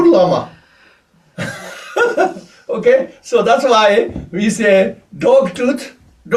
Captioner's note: laughs